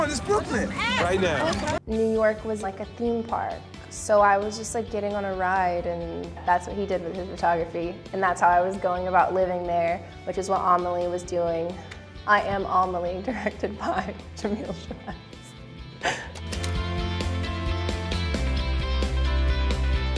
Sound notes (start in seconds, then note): 16.0 laughs; 17.2 soft rock music